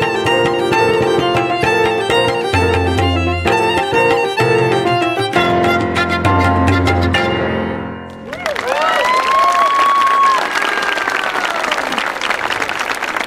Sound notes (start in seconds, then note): 0.0 pleasant instrumental music; 8.1 audience applauding